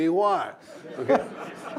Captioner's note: laughter